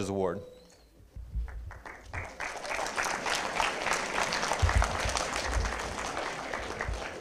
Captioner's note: applause